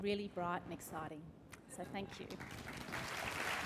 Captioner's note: applause